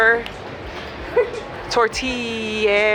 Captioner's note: laughs